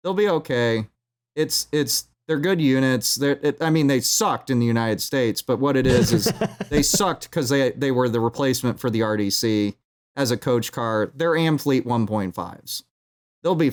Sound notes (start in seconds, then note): 5.8 laughs